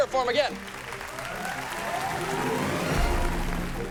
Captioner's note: cheering